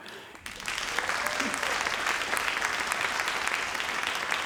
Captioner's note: crowd applauding